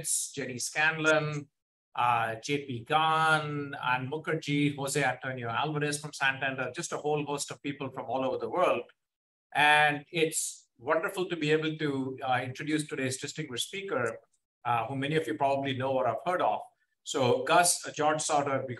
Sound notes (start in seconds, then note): none